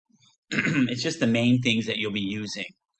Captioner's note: clears throat